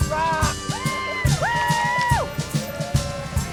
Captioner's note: cheering